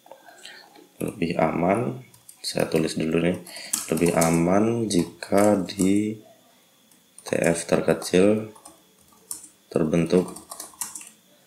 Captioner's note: typing